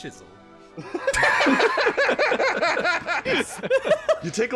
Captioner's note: laughter